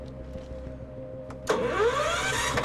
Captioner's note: cranking